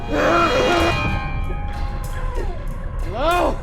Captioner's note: grunting